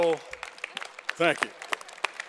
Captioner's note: applause